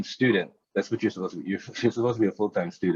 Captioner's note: chuckles